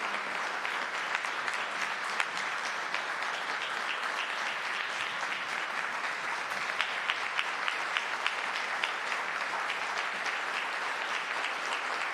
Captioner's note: applause